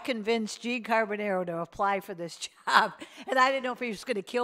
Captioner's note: laughs